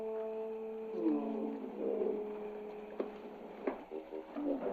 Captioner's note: Shadwell grunting